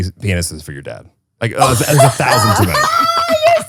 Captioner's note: laughs